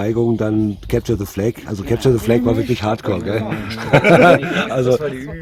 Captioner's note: laughing